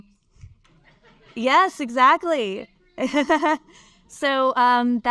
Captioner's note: laughs